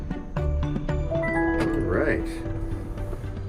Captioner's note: bell chimes in car